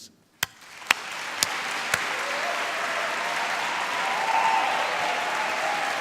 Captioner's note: applause and cheering